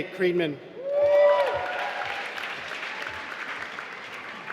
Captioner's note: applause